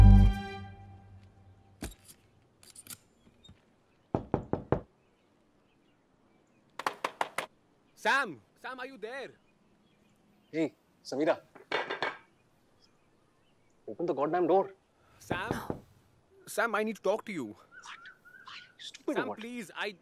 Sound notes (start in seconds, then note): 0.1 door opens, closes; 4.1 knocking on door; 11.6 tapping